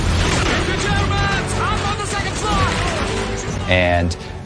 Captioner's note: yelling